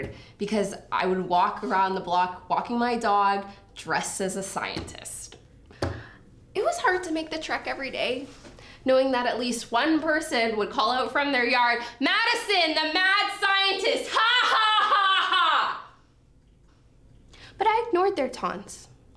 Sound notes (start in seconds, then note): 14.2 laughs